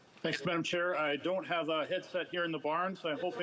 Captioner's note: speaking FRENCH